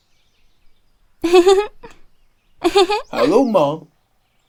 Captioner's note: Acela giggling